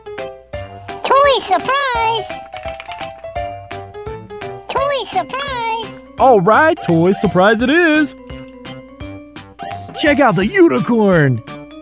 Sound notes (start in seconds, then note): 0.2 playful music; 1.8 toy clattering inside; 8.5 playful music